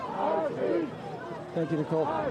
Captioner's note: crowd chanting